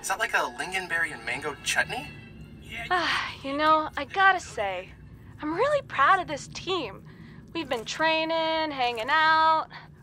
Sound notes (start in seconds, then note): 2.9 sighs